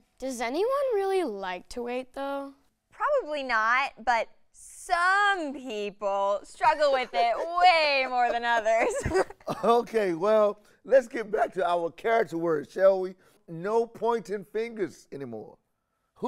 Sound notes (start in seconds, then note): 6.7 laughs